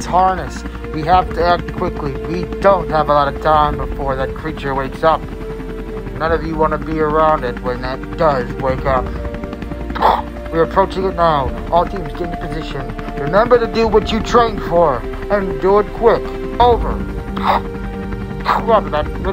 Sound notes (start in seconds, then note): 16.8 radio hiss; 17.9 radio Voice